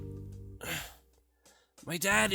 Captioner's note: sigh